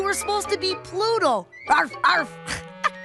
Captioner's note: laughs